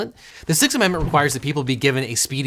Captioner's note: paper rustling